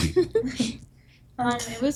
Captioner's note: chuckle